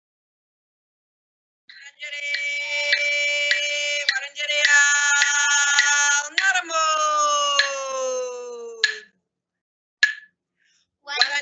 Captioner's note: singing in woiwurrung